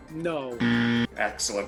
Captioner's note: buzz